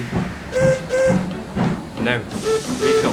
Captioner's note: Donald whistles